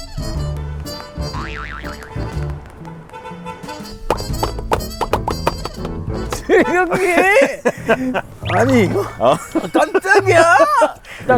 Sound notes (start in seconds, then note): 1.2 small horn honk